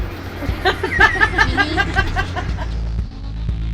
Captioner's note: crowd laughing